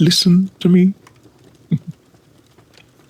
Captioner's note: soft Laugh